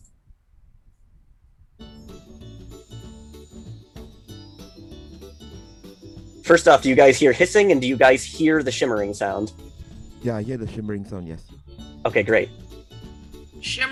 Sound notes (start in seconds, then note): 1.8 delicate chiming; 1.9 playful acoustic music